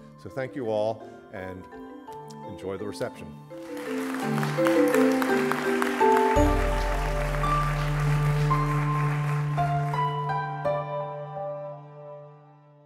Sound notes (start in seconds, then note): 3.6 applause